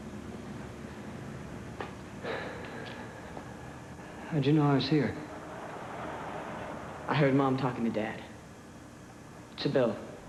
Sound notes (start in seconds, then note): 2.2 sighs